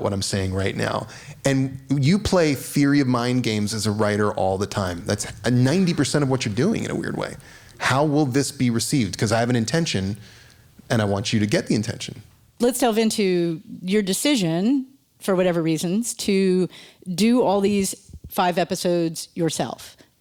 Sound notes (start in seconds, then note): none